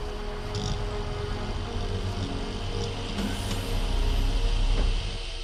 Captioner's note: electricity buzzing